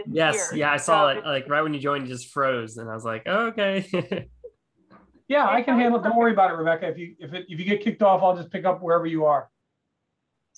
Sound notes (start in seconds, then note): 3.7 chuckling